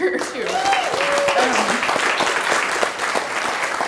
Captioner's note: clapping